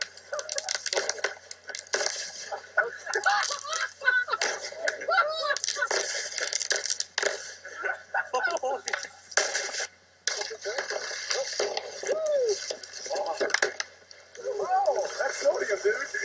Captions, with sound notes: (laughter) (more laughter, exclamations of amusement) Whoa, that’s sodium dude,